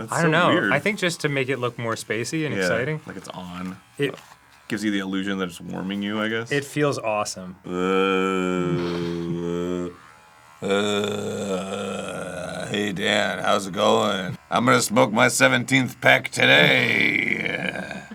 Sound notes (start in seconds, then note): 10.5 vibrates and groans; 12.6 vibrating